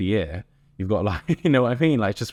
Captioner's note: chuckles